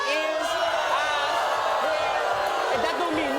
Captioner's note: audience booing